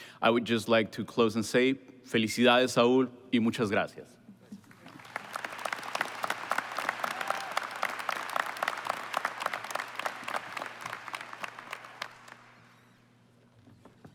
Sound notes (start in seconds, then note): 4.6 applause